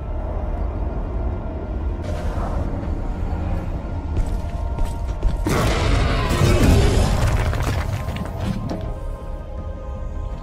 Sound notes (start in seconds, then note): 5.4 ground trembles; 5.5 hunters roar